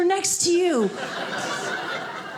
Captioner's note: audience laughing